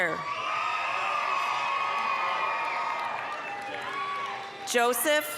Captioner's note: applause, cheering